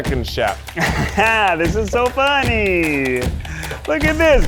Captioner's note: laughs